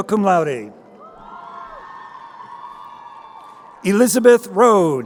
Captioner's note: crowd cheering